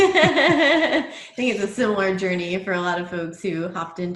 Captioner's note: laughs